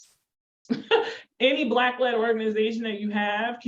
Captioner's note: chuckles